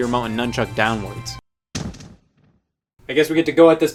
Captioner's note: thud